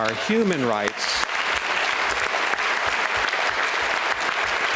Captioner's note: applause